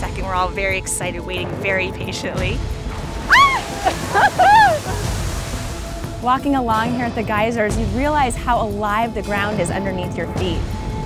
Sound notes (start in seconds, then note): 3.7 laughs; 4.2 screams